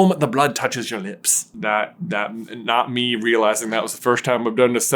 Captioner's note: Scottish accent